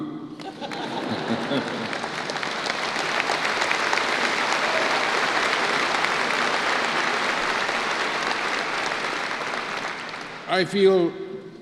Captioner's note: applause